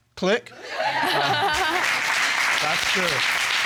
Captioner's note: audience laugh; chuckles